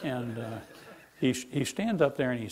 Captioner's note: laughing